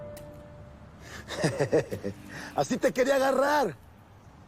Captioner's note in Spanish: Se ríe